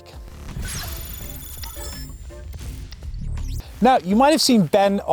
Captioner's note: logo bleeping